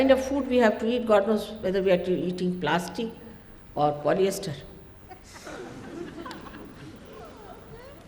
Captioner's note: laughter